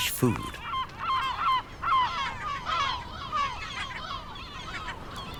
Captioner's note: gulls cawing